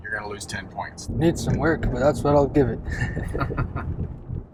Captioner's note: laughs